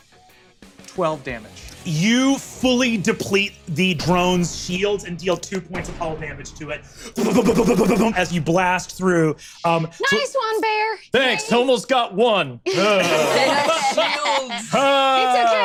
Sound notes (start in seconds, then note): 7.2 vocalizes shots